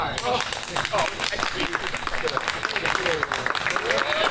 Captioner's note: audience applauds